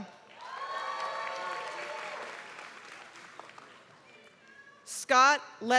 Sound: applause

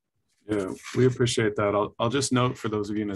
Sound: pages rustling

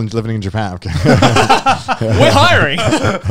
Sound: all laughing

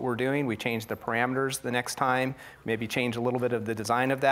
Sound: none

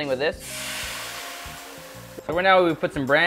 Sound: sizzling

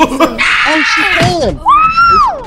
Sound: head hitting the stone cold stone

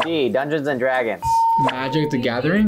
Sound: bell rings

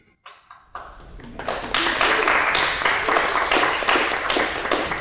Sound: audience clapping

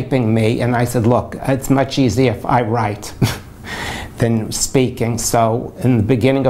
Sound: laughs

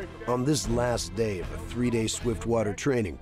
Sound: voiceover

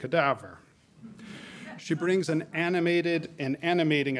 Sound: audience laughing

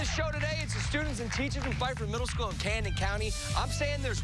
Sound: cheers and applause

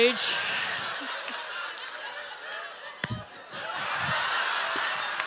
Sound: audience laughing

